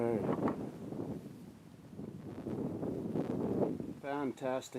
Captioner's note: wind howling